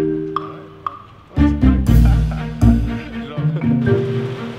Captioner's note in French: murmures au télephone